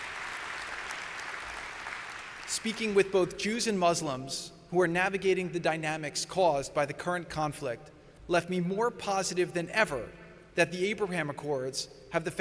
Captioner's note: applause